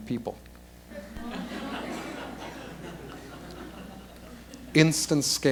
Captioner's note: laughter